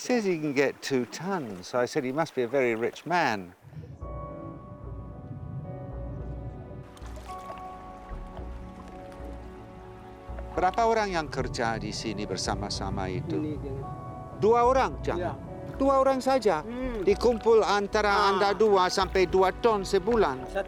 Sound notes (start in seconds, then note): 3.9 mellow music; 10.4 and man speaking Austronesian language